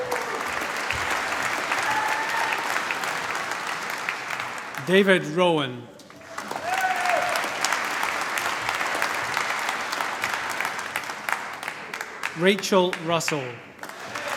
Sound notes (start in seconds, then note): 0.0 applause; 6.0 cheering, applause